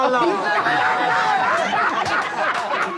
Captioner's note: laughs